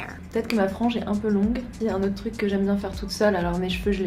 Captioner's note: speaking French